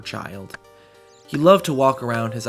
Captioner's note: woodcutting off in distance